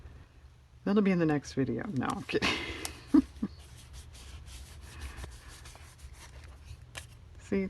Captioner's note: laughs